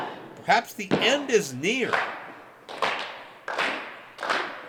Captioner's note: fans clapping